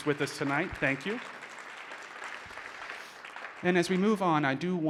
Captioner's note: audience applauding